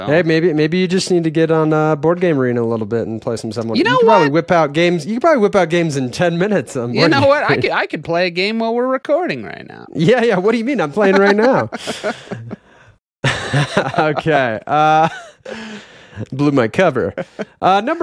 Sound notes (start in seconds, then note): 11.0 laughing